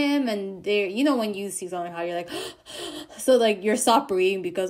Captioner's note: heavy breathing